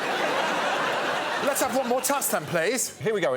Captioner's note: laughter